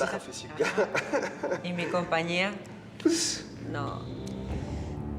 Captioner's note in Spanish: risa nerviosa de felipe